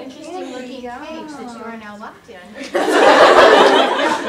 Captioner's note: audience laughter